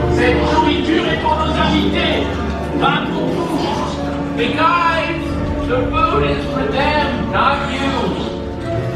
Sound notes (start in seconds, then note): 0.5 characters speaking in foreign language